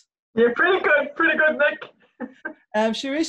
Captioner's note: laughs